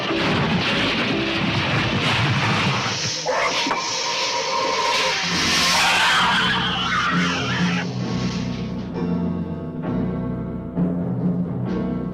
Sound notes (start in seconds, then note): 0.1 metal clanking; 3.0 monster screeches; 3.5 dramatic orchestral music